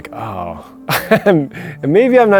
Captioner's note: laughs